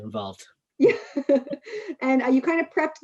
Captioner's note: she laughs